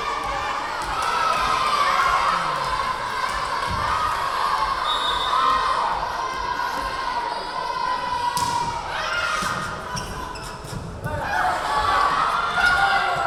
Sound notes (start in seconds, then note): 4.8 whistle blowing; 8.8 yelling